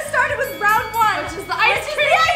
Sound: bell dings

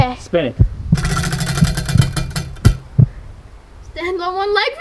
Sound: wheel clanks around metal axle

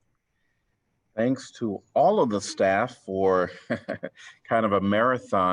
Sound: laughter

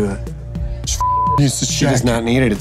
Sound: beep

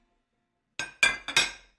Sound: dishes clatter

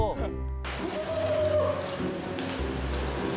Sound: pigeon call

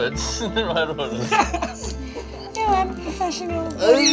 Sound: laughter

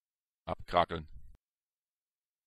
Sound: fast Pronunciation

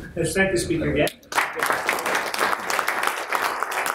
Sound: applause

